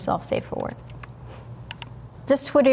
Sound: mouse clicking

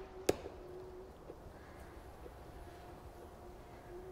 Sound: twigs breaking

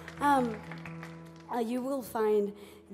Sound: audience applauds

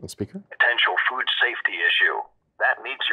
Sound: computerized Voice

